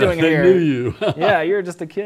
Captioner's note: laughs